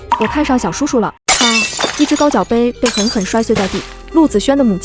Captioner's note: smash!